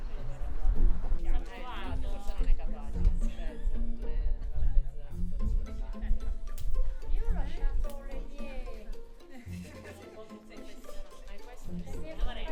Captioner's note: people chatting